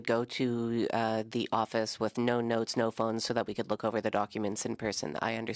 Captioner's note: speaking French